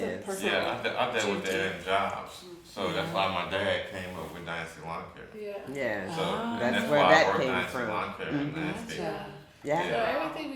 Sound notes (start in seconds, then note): 7.5 speaking faintly